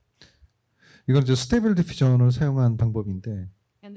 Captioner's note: speaking korean